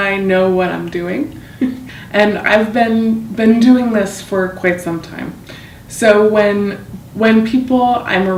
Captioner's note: chuckles